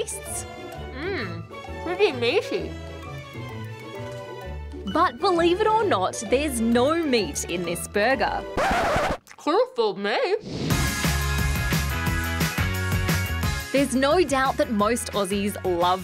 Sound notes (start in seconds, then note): 8.5 record scratches